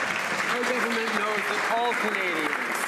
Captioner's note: some Applause